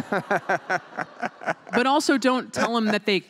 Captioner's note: laughter